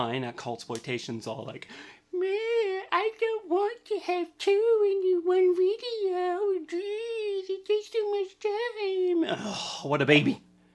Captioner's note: gibberish baby talk